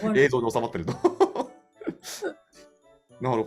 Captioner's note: laugh